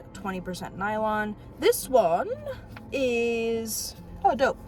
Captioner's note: british accent